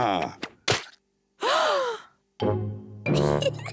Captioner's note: all gasp; giggles